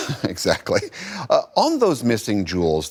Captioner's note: laughter